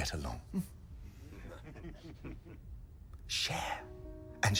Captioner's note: men chuckling